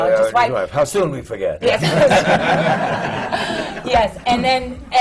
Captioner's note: laughter